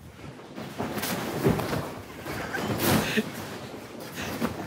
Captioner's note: sumo suits rustling